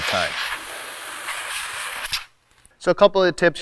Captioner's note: air whooshing